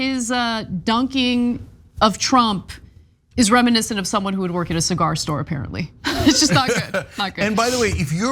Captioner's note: laugh